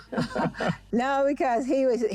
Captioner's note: Jackie and Wale chuckle